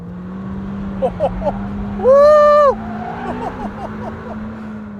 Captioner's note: laughs